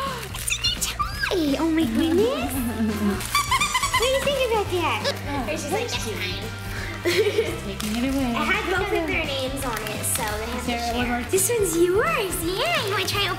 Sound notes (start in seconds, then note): 3.2 squeaking